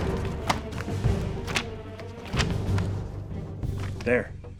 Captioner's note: pages rustling; dramatic music continues